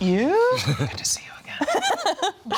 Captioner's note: whispers; laughs